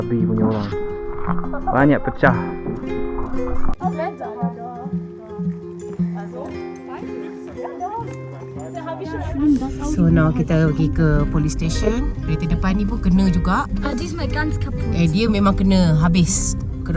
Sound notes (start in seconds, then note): 14.0 speaking German